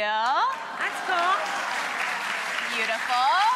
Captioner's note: applause